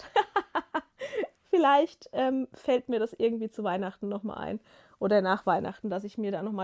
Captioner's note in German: gelächter